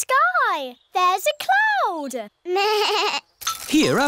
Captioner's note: bleats